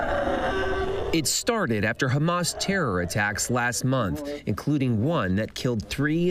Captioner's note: sobbing